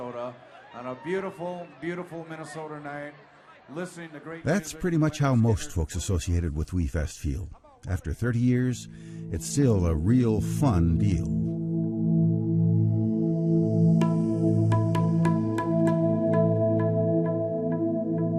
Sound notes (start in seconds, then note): 4.7 voiceover; 11.5 serene music